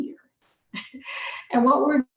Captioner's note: chuckles